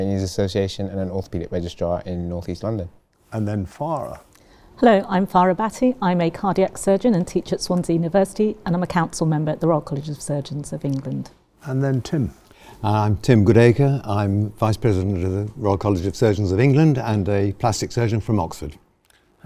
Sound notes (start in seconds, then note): none